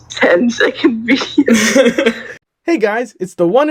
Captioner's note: final laugh